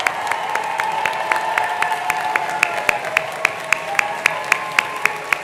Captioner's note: attendees cheering continues